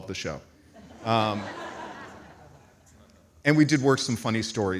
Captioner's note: audience laughs